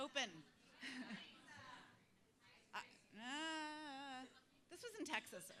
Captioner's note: laugh